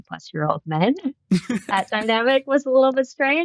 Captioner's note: laughter